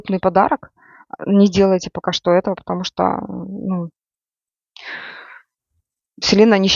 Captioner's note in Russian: тяжело вздыхает